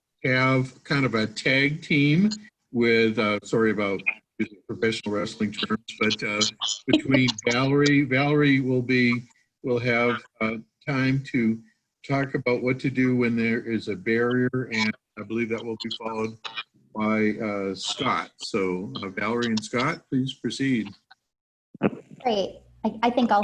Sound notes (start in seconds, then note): 7.3 laughter